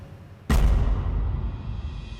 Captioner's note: thud